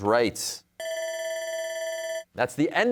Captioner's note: bell rings